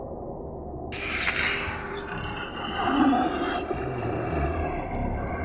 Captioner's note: creature growling